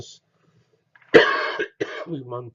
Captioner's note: cough